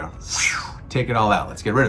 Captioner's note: air whooshes